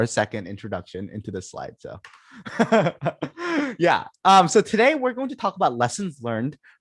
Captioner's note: laughter